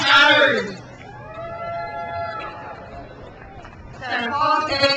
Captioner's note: crowd cheers